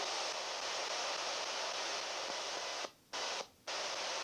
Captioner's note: device hissing